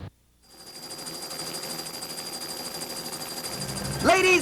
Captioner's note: helicopter whirring